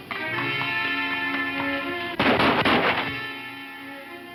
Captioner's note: gun firing; soft music